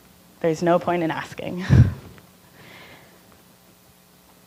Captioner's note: laughing